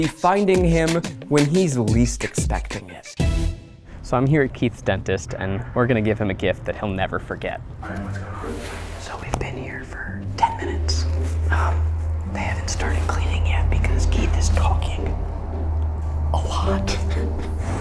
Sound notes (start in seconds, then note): 9.1 whispering; 16.8 laughs